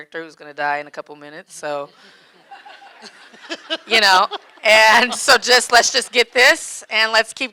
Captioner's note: audience laughing